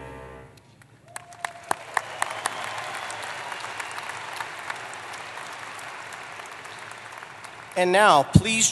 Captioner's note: applause